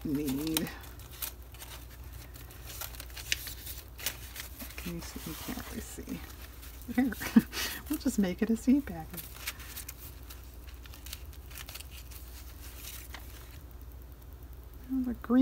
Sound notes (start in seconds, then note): 4.2 laughs